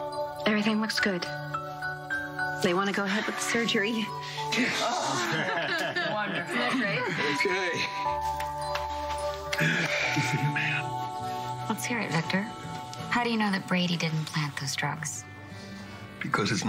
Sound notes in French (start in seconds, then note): 4.5 laughs; 9.5 sighs